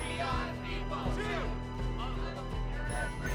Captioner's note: crowd chants